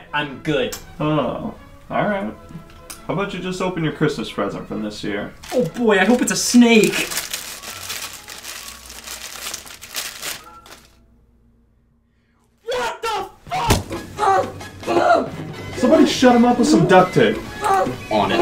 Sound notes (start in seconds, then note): 7.0 paper rustles; 14.1 grunts